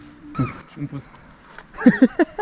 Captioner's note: berd noise